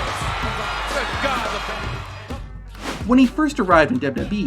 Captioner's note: crowd cheering